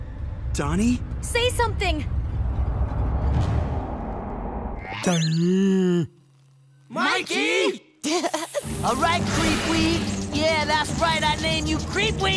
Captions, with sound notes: -Donnie? -Say something. Mikey! [chuckles] Alright, Creepweed! Yeah, that's right I named you Creepweed!